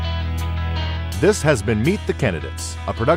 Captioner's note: voiceover